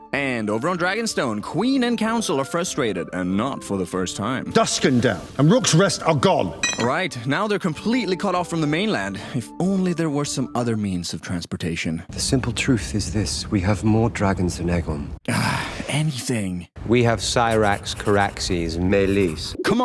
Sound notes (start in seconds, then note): 15.2 sigh